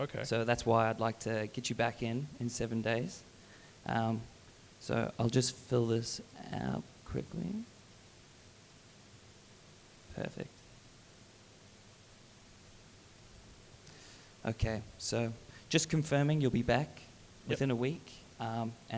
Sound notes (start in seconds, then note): none